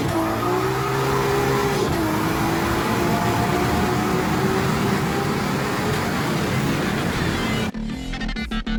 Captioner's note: more big turbina noises